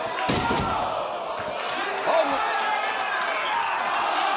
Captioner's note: crowd exclaiming